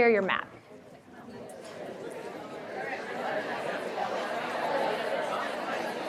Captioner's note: audience chattering